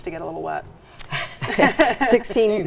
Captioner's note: laughing